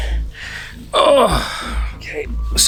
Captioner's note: grunting